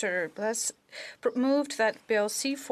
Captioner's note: speaking French